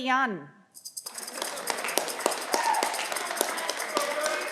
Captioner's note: audience clapping